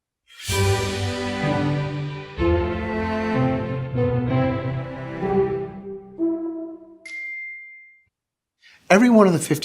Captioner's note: classical music; chime